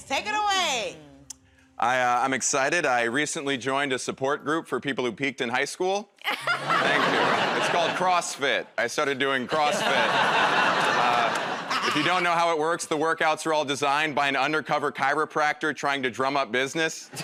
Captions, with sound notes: Take it away. -I'm excited -- I recently joined a support group for people who peaked in high school. -[ Laughs ] -Thank you. It's called CrossFit. I started doing CrossFit. [ Laughter ] If you don't know how it works, the workouts are all designed by an undercover chiropractor trying to drum up business.